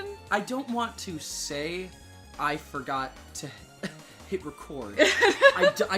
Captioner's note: laughing